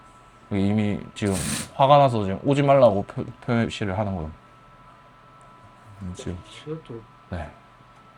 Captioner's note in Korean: 콧방귀